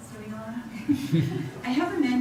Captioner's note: audience laughs